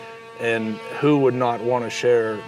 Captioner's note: tool grinding